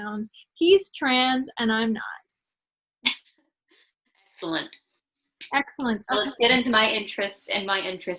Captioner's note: laughs